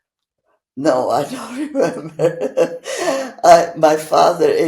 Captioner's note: laughing